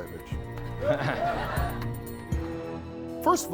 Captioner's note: laughing